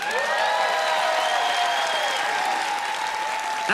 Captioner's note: cheers and applause